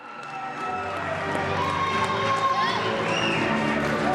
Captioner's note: cheers and applause